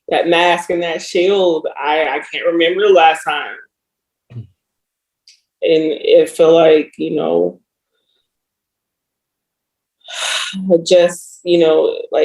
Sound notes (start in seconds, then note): 9.5 sighs